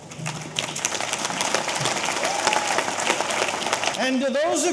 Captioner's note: audience applauding; audience cheering